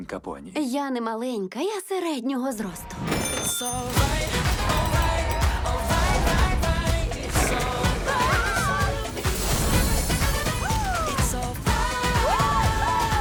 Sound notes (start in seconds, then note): 3.3 upbeat music plays; 4.2 all cheering; 5.8 growls; 10.1 upbeat music continues; 12.0 gasping